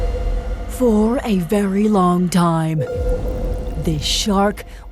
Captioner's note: deep, dramatic voice